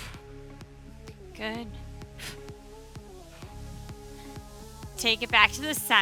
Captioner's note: exhales deeply